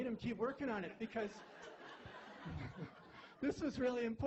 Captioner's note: laughter